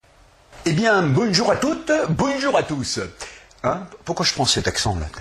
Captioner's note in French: avé l'accent du Sud